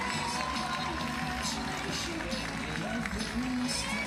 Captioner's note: audience applauding and cheering continues